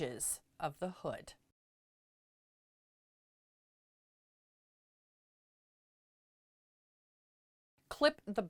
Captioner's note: no Sound Present